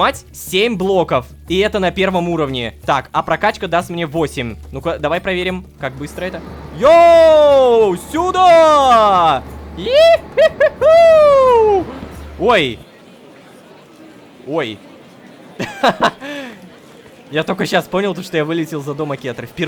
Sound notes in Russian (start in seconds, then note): 15.6 Ой.. Кха-ха.. Кх!